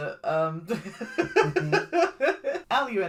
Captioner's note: laughs